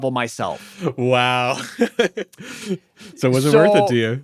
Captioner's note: laughs